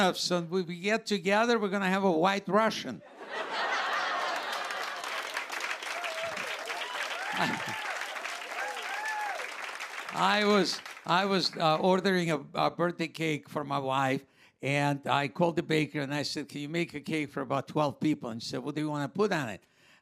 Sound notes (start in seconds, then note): 3.0 laughter; 5.7 cheers and applause